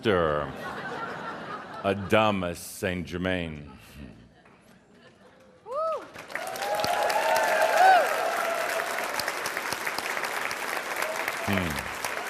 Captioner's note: Adamus spreads his arms wide to much applause and cheering